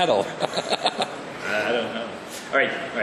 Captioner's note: laugh